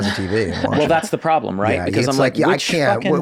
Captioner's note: laughs